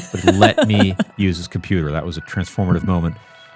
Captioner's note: laughing